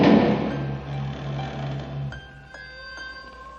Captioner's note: door creaking